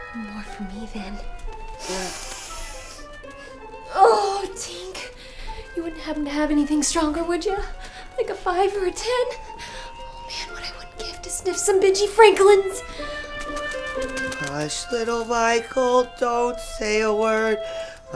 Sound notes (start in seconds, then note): 1.7 Lily sniffs deeply; 12.9 wings fluttering